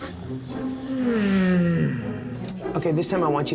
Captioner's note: yawns